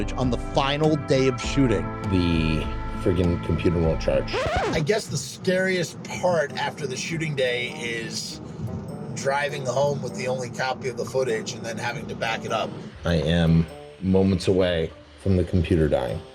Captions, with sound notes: on the final day of shooting... -The freaking computer won’t charge. [Record needle skips] I guess the scariest part after the shooting day is driving home with the only copy of the footage and then having to back it up. I am moments away from the computer dying.